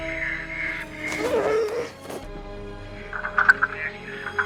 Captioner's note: male struggling